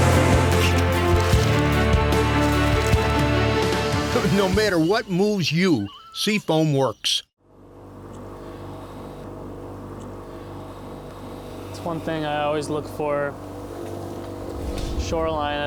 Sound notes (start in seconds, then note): 4.7 voiceover